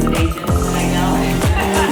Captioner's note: laughs